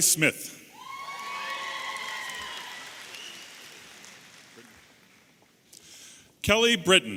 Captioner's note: audience applauding and cheering